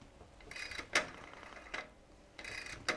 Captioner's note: dialing sound